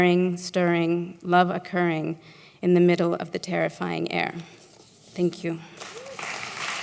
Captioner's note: applause